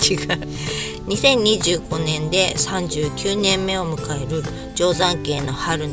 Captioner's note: laughs